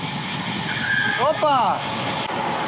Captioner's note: braking